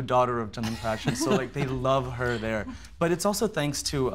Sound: laughter

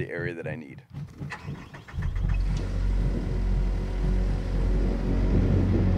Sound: skid-steer engine starts

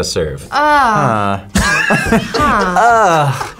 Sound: both laugh

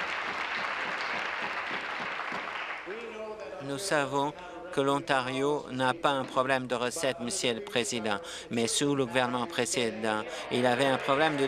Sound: applause

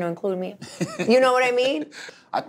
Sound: Charlamagne Tha God laughs

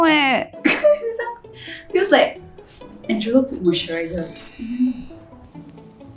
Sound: laughs

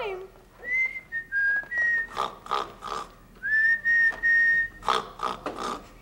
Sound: snoring; whistling

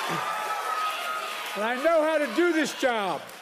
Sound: applause

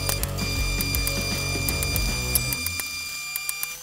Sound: rock music; darts tapping

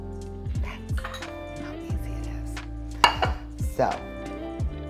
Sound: whispers

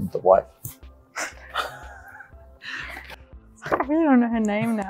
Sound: laughing

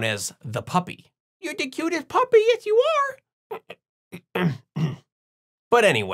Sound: throat clearing

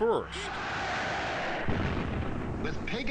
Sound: people screaming; bomb exploding

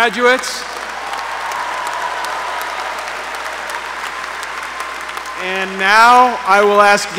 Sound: applause

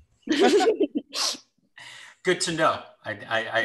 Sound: laughs

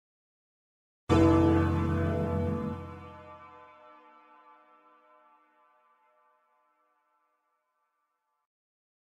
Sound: church bell

